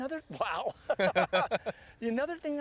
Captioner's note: laughter